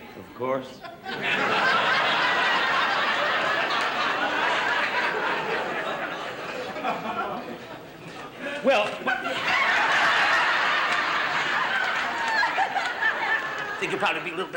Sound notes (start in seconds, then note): 0.7 laughter; 9.0 loud laughter